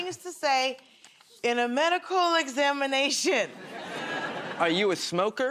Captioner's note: nervously